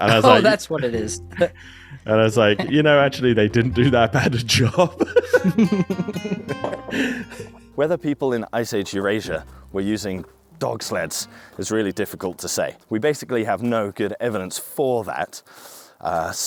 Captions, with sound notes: And I was like- - Oh, that's what it is. - And I was like, you know, actually, they didn't do that bad a job. (both laughing) Whether people in Ice Age Eurasia were using dog sleds is really difficult to say. We basically have no good evidence for that.